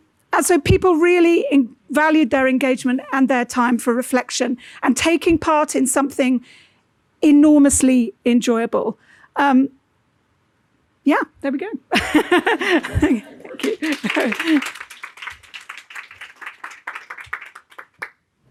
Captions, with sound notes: So people really valued their engagement and their time for reflection and taking part in something enormously enjoyable. Yeah, there we go. (laughing) Thank you. (audience clapping)